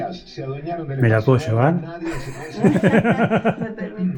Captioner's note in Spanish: Risas